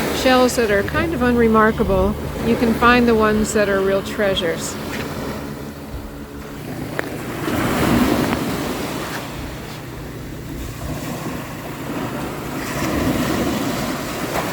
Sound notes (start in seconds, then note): 7.7 surf roars